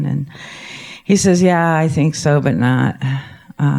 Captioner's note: none